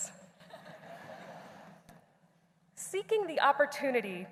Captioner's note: laughter